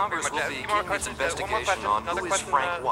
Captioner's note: all chattering